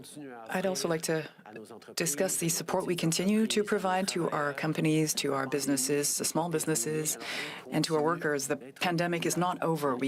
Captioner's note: speaking French